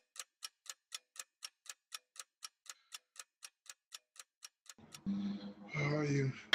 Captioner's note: clock ticking